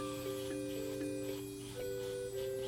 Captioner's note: brushing